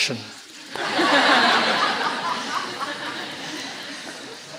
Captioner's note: laughter